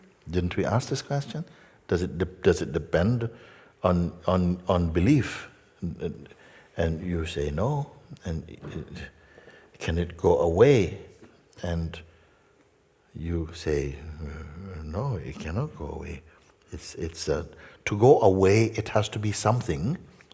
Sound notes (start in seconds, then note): none